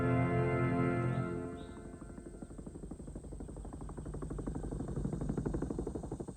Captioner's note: helicopter blades whirring